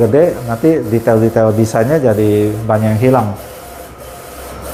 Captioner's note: printer machine noise